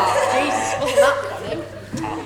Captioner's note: forced exaggerated laughter